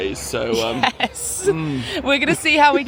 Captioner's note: chuckling